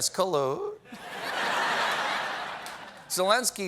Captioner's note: laughter